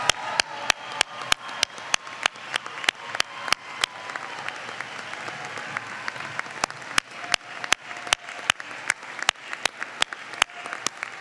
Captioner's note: applause